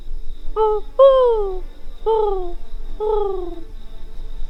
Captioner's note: owl calls